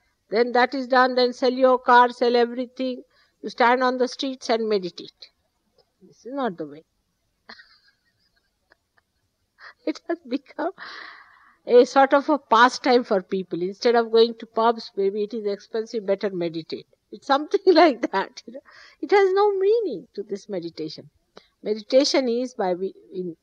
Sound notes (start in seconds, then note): 9.2 laughing